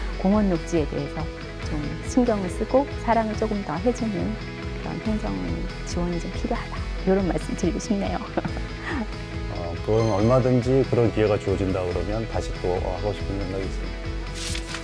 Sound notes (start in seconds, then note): 8.1 laughter